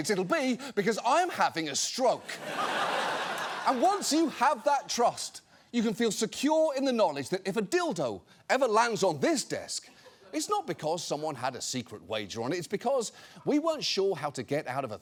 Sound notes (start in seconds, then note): 2.2 audience laughs